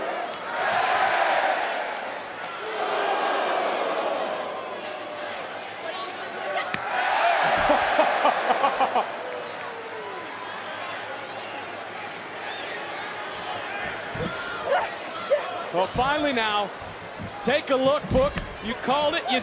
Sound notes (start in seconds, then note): 7.5 Vic laughing; 7.6 crowd cheering continues